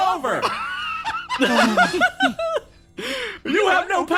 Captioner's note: laughs